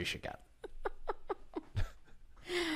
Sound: laughs

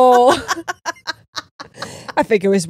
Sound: laughing

